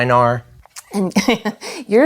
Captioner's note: laughs